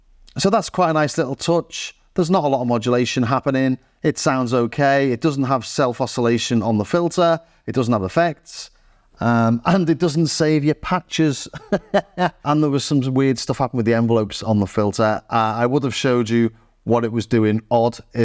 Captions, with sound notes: So that's quite a nice little touch. There's not a lot of modulation happening. It sounds okay. It doesn't have self-oscillation on the filter. It doesn't have effects. And it doesn't save your patches. (laughs) And there was some weird stuff happened with the envelopes on the filter. I would have showed you what it was doing odd